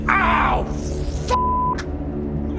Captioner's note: fainting expletive